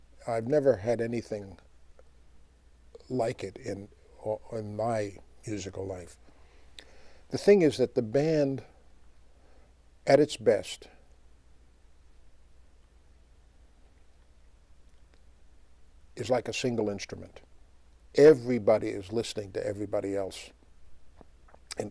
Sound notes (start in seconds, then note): 12.6 pause